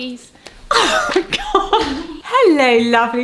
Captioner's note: laughs